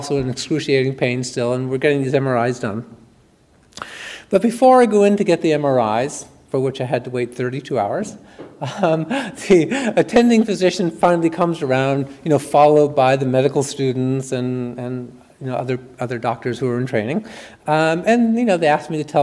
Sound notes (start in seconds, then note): 8.6 chuckles